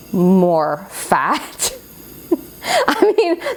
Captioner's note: laughs